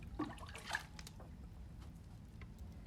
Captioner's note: water sloshing